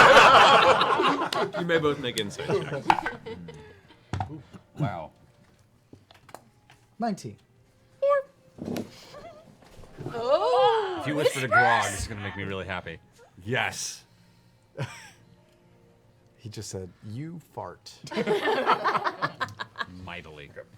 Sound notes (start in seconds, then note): 0.0 laughter; 8.6 high voice